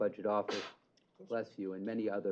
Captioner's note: sneeze